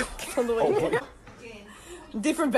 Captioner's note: wheeze